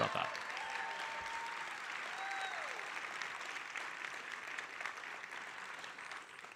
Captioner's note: audience cheering and applauding